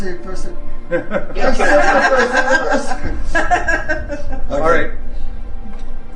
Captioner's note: group laughing